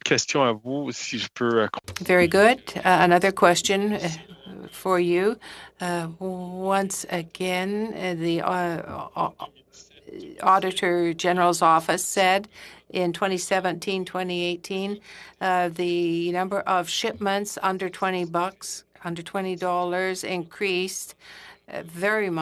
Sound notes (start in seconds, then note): 4.4 speaking French